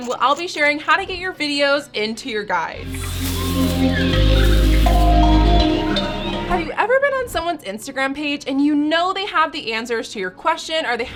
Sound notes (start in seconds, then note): 2.8 grass rustling; 2.9 bird chirping; 4.8 relaxing music